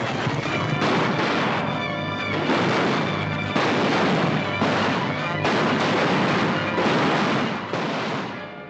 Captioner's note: gunshots